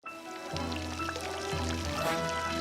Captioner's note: fountain trickling